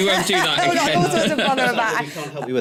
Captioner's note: laughter